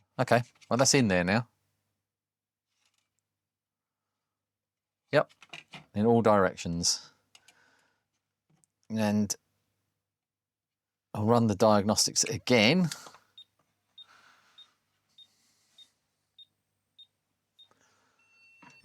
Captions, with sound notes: Okay well that's in there now. (Silence) Yep in all directions. And I'll run the diagnostics again. (Beeping)